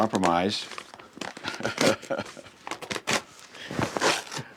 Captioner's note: laughs